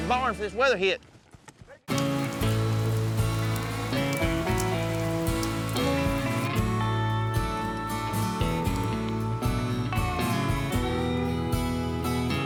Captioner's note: rain falling